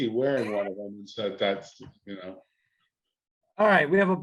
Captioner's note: chuckles